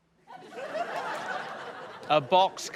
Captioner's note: laughter